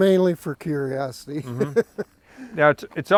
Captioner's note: laughs